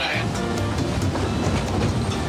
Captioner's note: speaking In Foreign Language